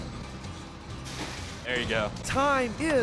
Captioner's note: splash